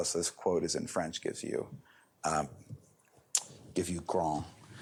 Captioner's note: french